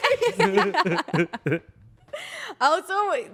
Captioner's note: everyone laughs